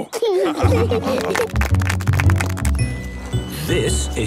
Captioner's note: laughing; clapping